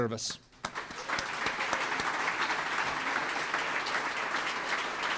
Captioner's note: crowd applauds